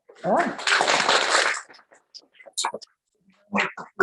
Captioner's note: applause